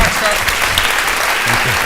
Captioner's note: cheering and applauding